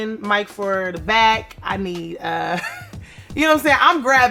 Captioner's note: laughs